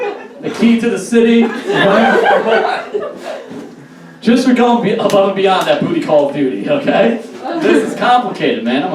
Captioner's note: audience Laughs